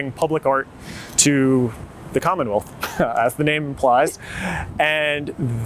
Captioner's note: chuckles